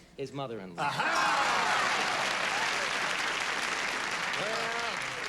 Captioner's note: cheers and applause